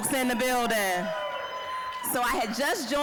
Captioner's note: scattered cheering